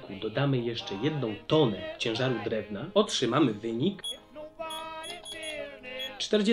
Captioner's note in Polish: dźwięki kalkulatora